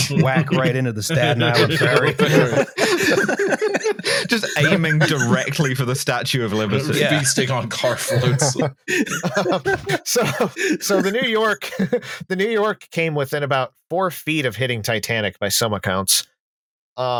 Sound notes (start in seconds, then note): 0.0 laughter; 6.3 laughter; 9.2 laughter; 10.3 laughing; 11.3 laughter